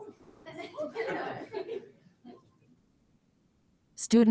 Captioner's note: people laugh